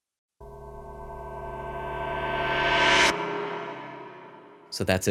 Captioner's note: reversed gong sound